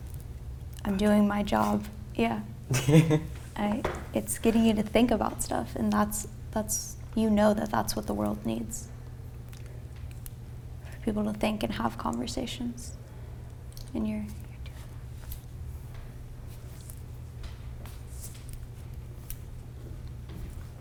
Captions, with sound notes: I'm doing my job." Yeah. It's getting you to think about stuff, and that's- you know that that's what the world needs. People to think and have conversations. [quietly] And you're doing that.